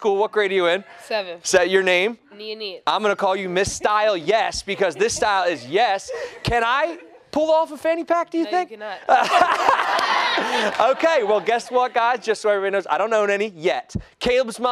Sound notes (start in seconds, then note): 9.0 laughter